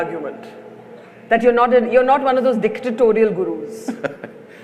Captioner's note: Sadhguru laughs